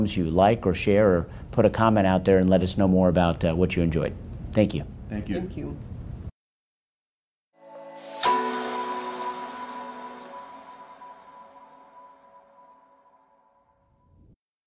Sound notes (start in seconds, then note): 7.6 bell ring